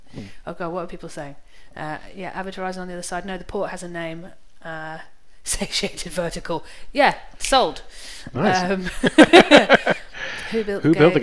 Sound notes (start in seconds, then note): 7.6 snaps fingers; 8.7 both laugh